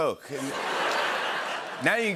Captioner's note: laughter and applause